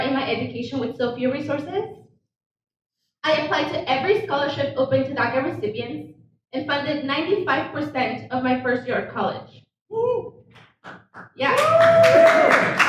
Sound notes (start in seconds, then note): 9.2 audience member cheers; 11.4 audience cheers